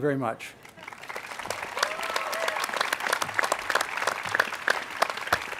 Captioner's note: cheers and applause